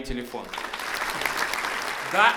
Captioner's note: applause